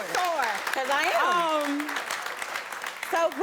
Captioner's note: audience clapping